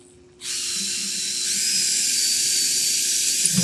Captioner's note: drill whirring